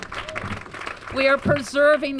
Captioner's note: applause